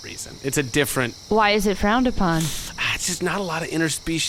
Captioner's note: uneasy sigh